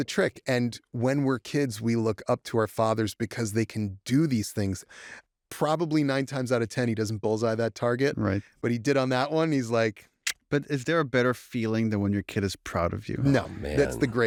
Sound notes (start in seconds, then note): 9.4 clicks tongue